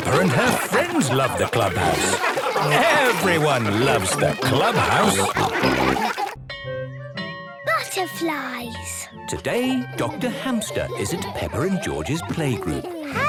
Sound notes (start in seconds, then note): 5.5 all laughing